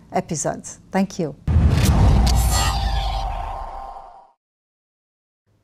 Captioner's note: logo whooshing